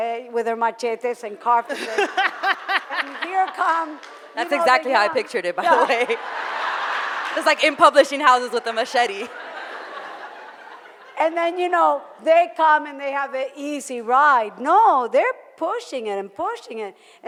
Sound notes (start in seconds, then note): 0.0 foreign language; 6.4 audience laughing